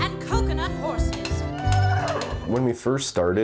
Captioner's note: whinnying